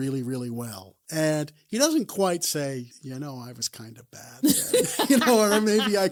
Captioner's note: both laugh